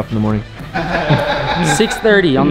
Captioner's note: laughs